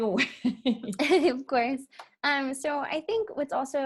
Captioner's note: laughs